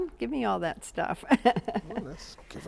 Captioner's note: giggles